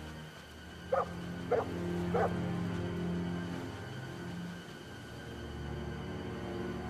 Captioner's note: barking continues